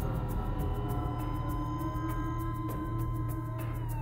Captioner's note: sinister music builds; siren wails